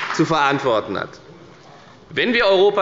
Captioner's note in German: Beifall bei der FDP